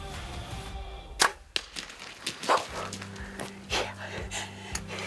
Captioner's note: arrow firing